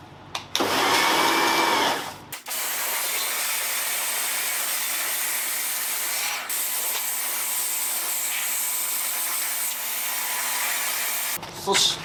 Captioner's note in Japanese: 洗浄音